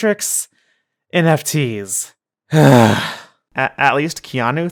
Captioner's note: beleaguered sigh